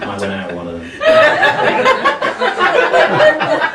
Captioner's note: laughing